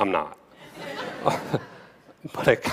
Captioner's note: laughter